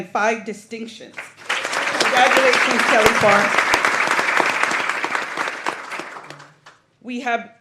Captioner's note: applause